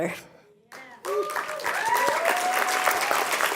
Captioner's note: clapping